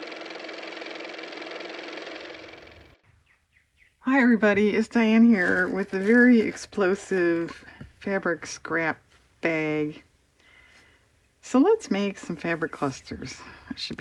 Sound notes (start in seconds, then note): 2.7 car motor